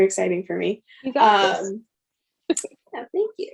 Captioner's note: laughs